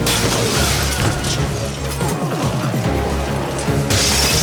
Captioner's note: door squeaks; glass shatters